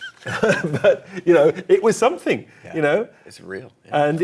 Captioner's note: laughing